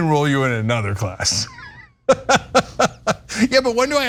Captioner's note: laugh